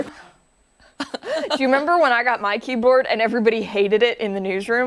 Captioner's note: laughter